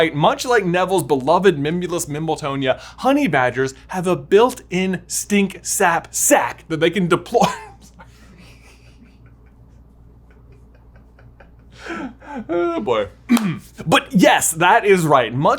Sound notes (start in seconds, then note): 7.3 laughs; 13.3 clears throat